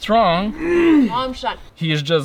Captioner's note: grunts